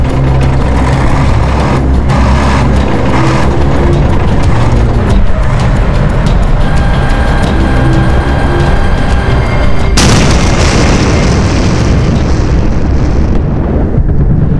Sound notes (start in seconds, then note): 9.9 explosion